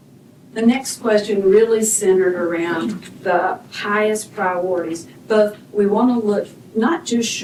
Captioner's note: clears throat